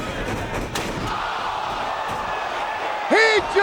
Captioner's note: crowd exclaiming; chair thuds